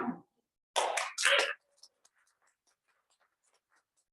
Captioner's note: applause